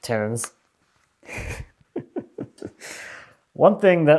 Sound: laughs

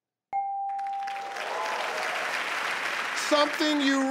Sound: bell dings; audience applauds

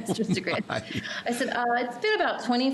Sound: laughing

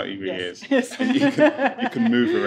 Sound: laughing

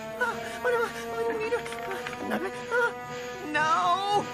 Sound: frantically muttering

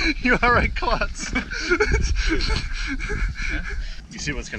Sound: laughter

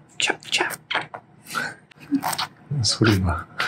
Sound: fist eating sound

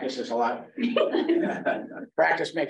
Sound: laughter

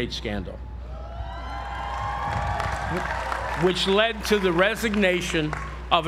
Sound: applause

